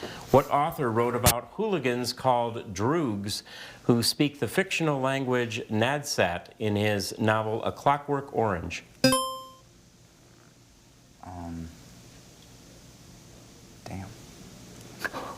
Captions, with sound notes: What author wrote about hooligans called droogs who speak the fictional language Nadsat in his novel "A Clockwork Orange"? (buzzer chimes) - Erm... Damn.